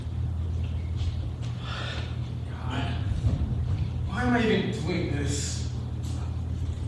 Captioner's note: sighs